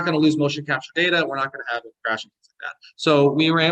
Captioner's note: audio distortion